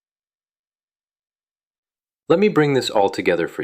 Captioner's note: pause